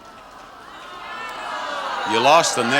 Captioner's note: audience groans